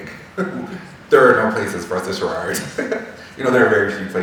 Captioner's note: laughing